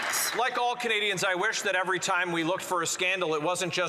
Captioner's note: some Applause